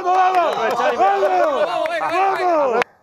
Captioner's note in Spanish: gritan